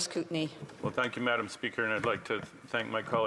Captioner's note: speaking indigenous language